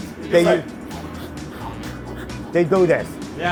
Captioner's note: blowing rapidly